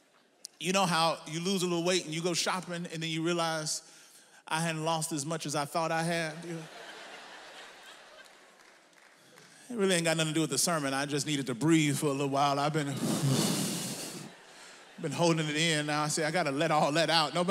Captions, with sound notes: You know how you lose a little weight and you go shopping and then you realize I hadn't lost as much as I thought I had. (audience laughs) That really ain't got nothing to do with the sermon, I just needed to breathe for a little while. I been (he exhales), I been holding it in. Now, see I gotta let all that out.